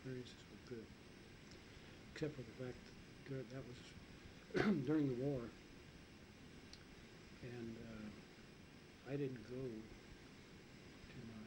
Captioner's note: coughs